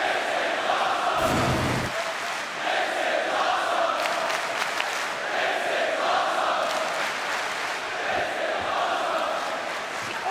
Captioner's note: crowd cheering